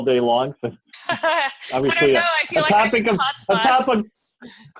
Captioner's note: laughter